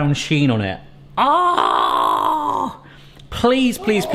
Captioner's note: yelling